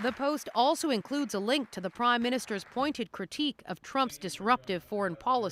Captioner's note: applause